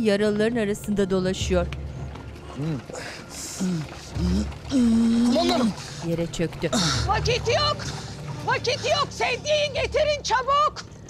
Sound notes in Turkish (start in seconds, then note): 2.9 Nefes sesi